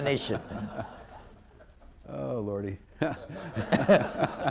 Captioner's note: laughter